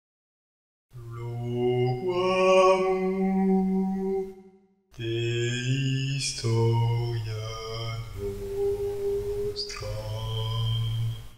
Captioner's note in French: voix d’ambiance